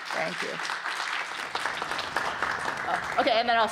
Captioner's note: applause